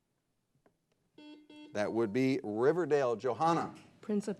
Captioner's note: buzzer blares